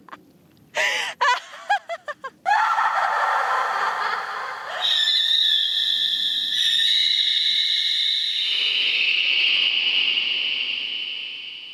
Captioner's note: wild laughter reverberates and mutates into an owl's shriek